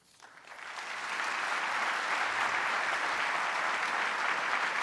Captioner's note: audience applauding